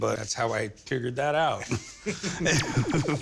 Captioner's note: both laughing